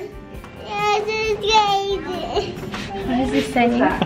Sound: vocalizing

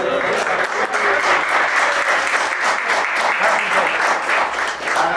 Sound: chattering and applause

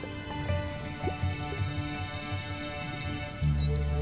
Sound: clicks

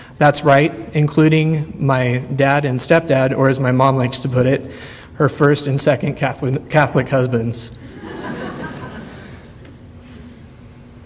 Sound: audience laughter

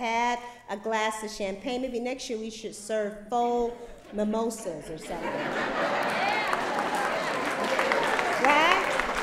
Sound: laughter; applause

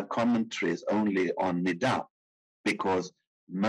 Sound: speaking in foreign language

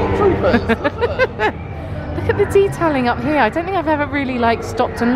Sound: laughing

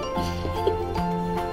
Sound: laughs

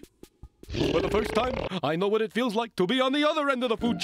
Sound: growls

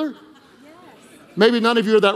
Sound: congregation laughing

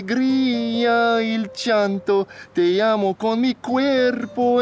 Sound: Alejandro speaking Spanish

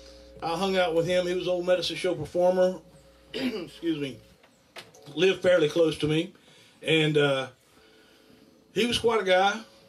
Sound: cough

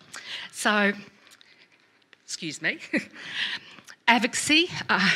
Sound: chuckles

